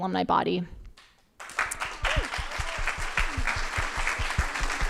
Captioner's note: crowd applauding